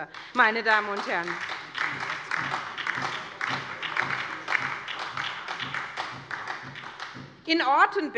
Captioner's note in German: Beifall bei der SPD